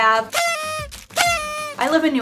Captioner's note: toy whistles